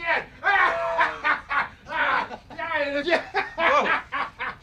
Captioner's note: laughing